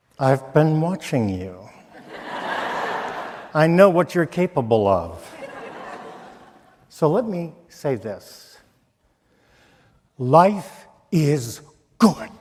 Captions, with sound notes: - I've been watching you. (audience laughing) I know what you're capable of. So let me say this, life is good.